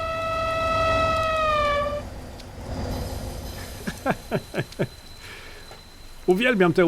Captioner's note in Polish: śmiech